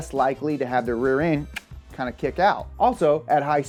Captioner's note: clicks teeth